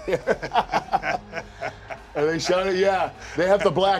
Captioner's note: laugh